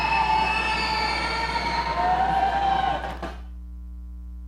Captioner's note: audience cheering